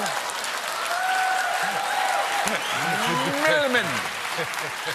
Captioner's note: applause; laughter